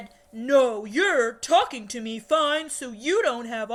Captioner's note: in a lower voice